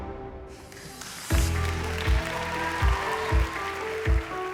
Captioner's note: cheering